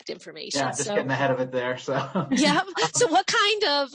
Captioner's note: laughs